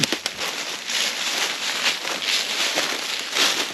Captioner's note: rustling